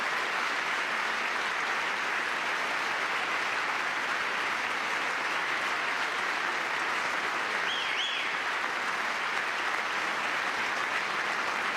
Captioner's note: cheering; applause